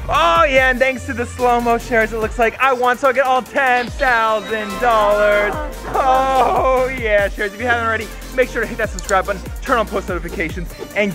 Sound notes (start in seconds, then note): 4.5 cheering